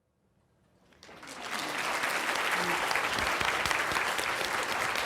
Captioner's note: audience applauds